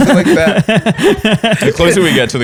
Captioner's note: laughter